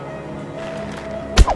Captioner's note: bow tenses; arrow whistles